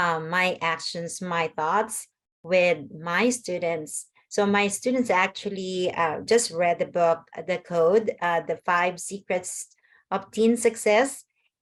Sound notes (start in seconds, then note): none